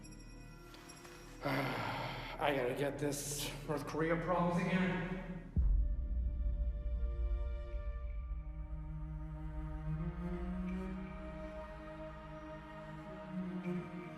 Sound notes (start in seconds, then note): 1.4 Hype groaning; 6.1 heartfelt music